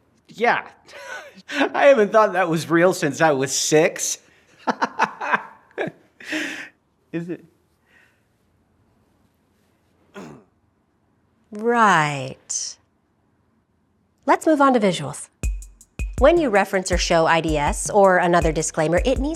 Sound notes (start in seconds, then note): 4.6 laughs loudly